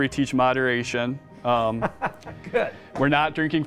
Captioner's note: laughs